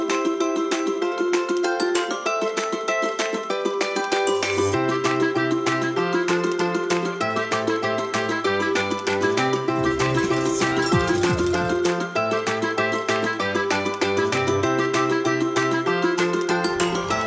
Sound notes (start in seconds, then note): 9.9 bells ringing; 17.0 crowd cheering